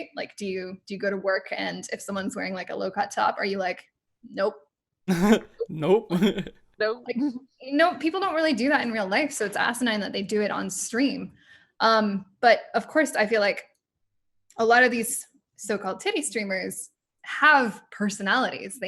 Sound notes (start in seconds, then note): 5.1 laughs